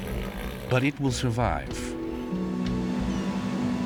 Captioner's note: bellowing